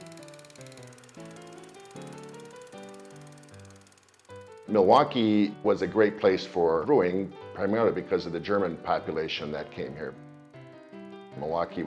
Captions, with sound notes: (upbeat piano music) (film clicking) Milwaukee was a great place for brewing, primarily because of the German population that came here.